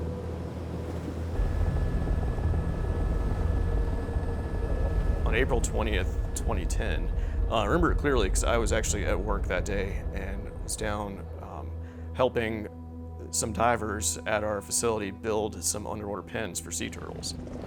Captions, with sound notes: (helicopter rotors thrumming) - On April 20th, 2010, I remember it clearly 'cause I was actually at work that day and was down helping some divers at our facility, build some underwater pens for sea turtles.